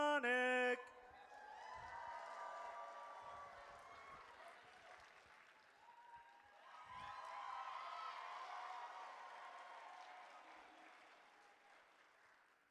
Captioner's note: audience cheers